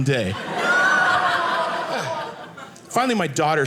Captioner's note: audience laughing